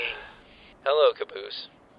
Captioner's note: Wash sighs